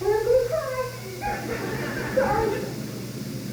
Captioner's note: crowd laughs